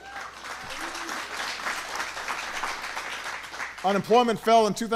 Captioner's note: applause